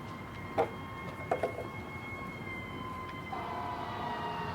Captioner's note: sirens wailing; items clattering